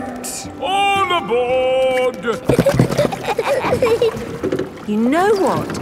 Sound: giggling

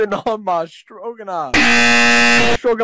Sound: 𝐄𝐗𝐓𝐑𝐄𝐌𝐄𝐋𝐘 𝐋𝐎𝐔𝐃 𝐈𝐍𝐂𝐎𝐑𝐑𝐄𝐂𝐓 𝐁𝐔𝐙𝐙𝐄𝐑

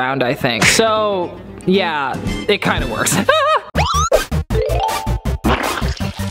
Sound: laughs

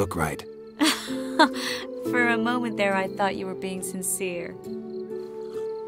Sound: laugh

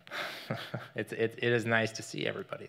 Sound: laughs

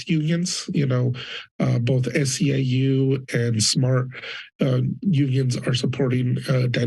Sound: foreign language

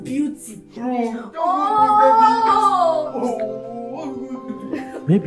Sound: crying and complaining

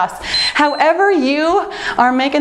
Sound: timer beeps

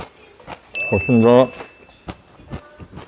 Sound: munching

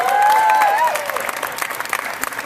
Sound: cheers

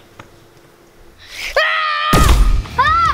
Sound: blaster shot

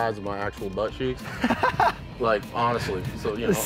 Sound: laughs

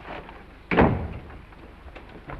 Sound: door shuts

